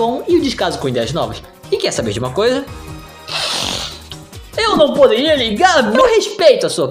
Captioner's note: sigh